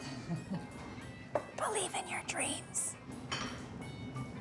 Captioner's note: whispering